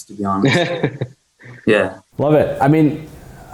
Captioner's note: chuckles